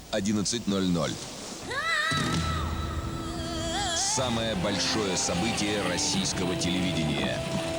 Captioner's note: scream